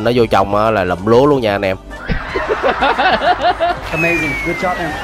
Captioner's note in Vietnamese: Tiếng cười